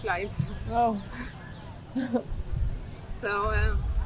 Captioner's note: laughing